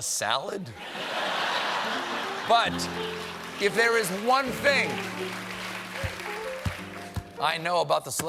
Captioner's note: laughter